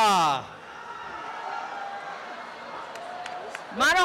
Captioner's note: applause and cheering